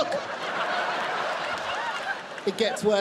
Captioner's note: audience laughing